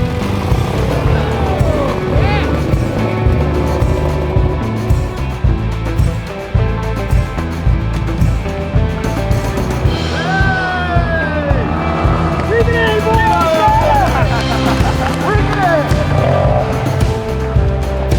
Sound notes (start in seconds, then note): 1.0 man cheers; 14.2 both men laughing